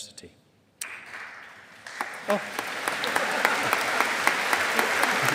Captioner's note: audience applauding